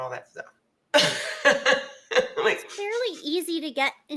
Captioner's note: woman laughs